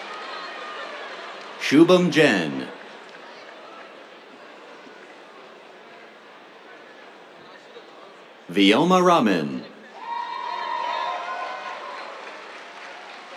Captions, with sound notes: Shubham Jain. [SCATTERED APPLAUSE] Vyoma Raman. [CHEERS, APPLAUSE]